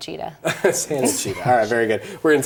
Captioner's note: laughs